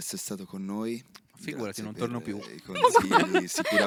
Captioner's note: laughing